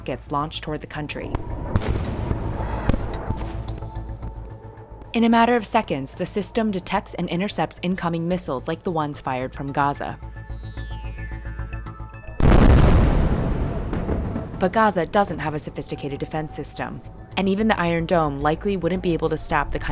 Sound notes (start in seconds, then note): 1.3 rockets exploding; 12.4 missile exploding